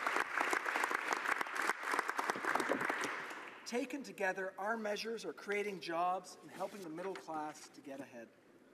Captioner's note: applause